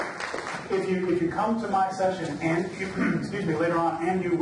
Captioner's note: applause drowns out speaker; clears throat